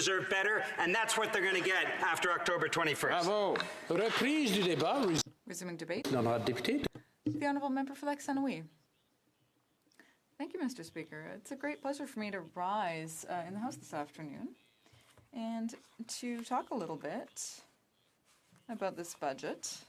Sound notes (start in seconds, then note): 8.9 speaking French